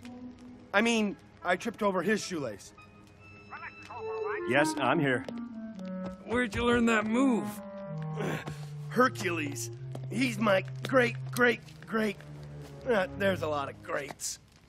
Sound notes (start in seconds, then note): 3.4 chattering on phone